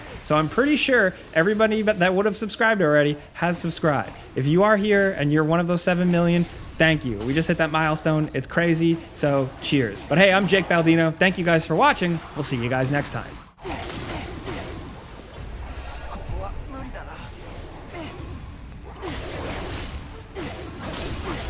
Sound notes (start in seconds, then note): 13.8 magic blasts whoosh and swirl; 17.1 character speaking in Japanese